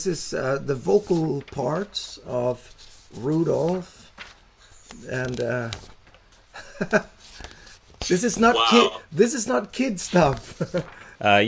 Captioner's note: laughs